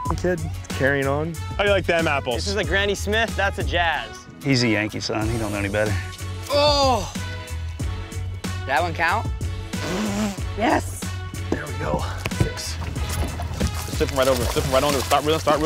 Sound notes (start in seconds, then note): 0.0 beep; 9.7 blows raspberries